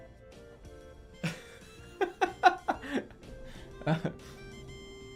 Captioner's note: laughing